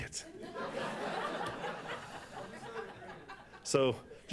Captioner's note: laughter